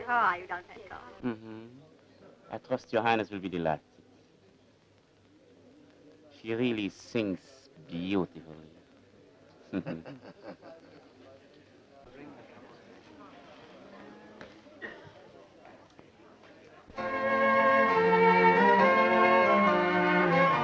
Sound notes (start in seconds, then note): 9.6 chuckling; 17.0 orchestral music